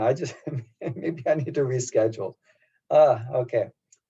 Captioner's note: laugh